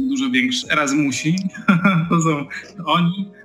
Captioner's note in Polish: śmiech